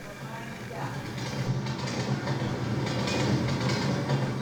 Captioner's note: soundtrack of train rattling